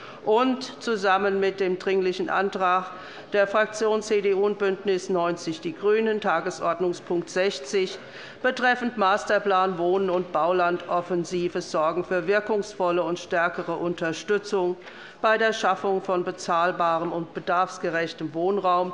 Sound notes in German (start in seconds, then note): none